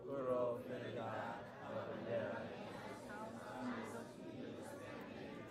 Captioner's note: speaking in foreign language